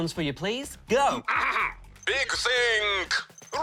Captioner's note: clears throat